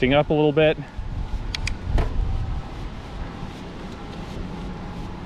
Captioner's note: whooshing air